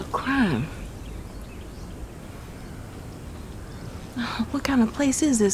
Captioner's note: birds chirping